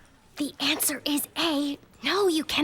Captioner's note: whispers